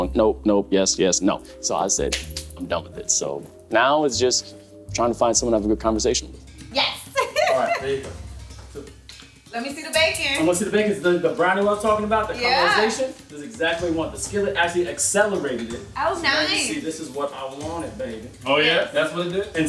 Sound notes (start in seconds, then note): 2.0 clapping; 6.8 laughing